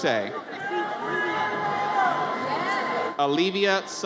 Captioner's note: audience cheers